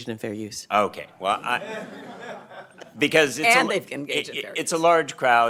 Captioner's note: laughter